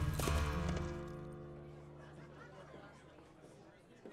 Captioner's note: laughing, talking